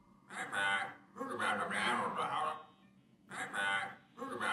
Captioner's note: electronic speech